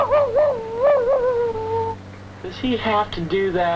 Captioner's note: barking